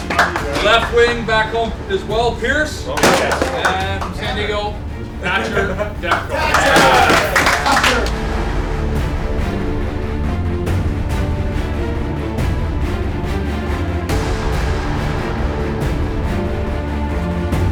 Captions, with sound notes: Left wing, back home as well Pearson. And from San Diego, Thatcher Demko. (applause) (dramatic music)